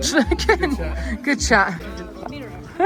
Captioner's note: laughs